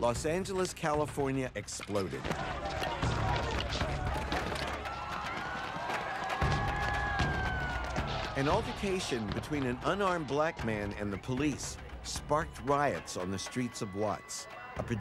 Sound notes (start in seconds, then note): 3.6 crashing thuds; 3.6 sirens wailing